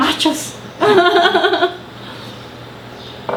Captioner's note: laughing hard